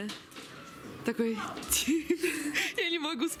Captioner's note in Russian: смех